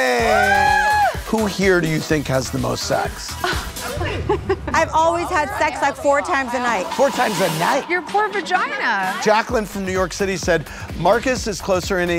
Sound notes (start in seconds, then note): 3.4 laughter